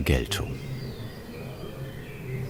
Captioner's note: birds chirping